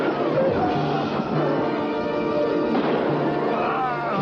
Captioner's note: gunshots firing